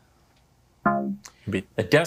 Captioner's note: womp chimes